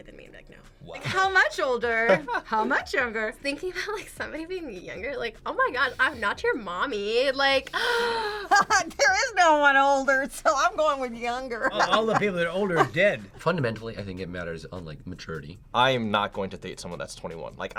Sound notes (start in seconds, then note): 8.4 laughs